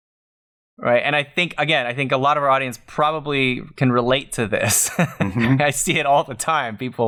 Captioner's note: laughter